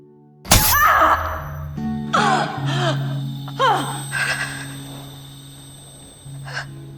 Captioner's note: June cries out in pain